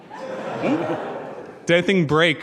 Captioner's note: audience laughing